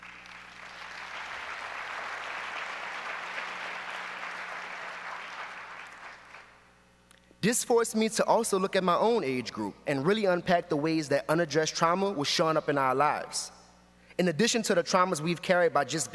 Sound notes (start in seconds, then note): 5.1 applause